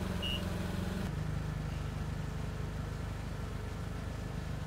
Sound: motor humming

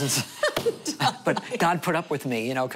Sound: laughter

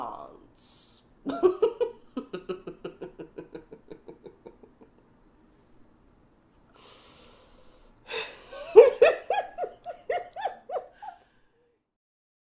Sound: giggling

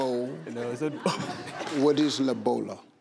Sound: laughs

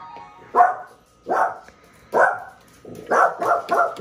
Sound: Lemonade barking

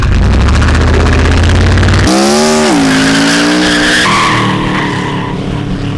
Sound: sweet burnout sound

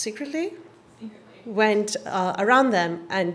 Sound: voiceover

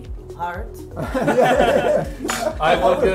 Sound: laughing

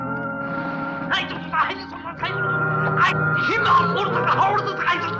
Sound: German language

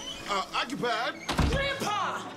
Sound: door slams

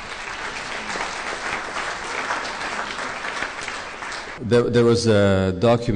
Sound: applause

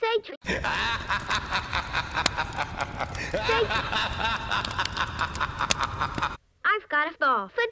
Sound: generic demonic laughter

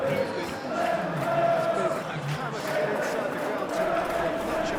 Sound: applause

